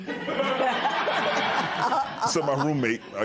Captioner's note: laughter